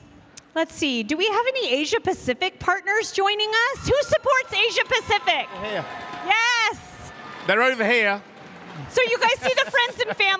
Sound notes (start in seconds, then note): 1.3 cheers and applause